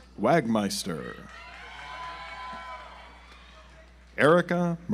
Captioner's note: audience applauds